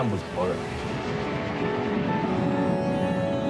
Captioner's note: train rumbling